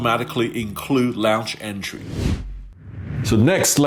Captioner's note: whooshing